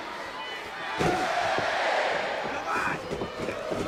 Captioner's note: crowd shouting